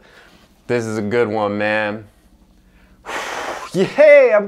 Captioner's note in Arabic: شهيق